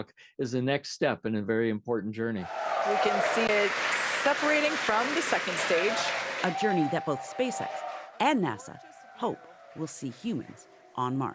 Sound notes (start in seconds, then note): 4.4 applause